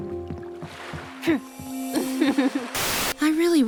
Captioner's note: giggles